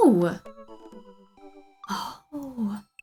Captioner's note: quietly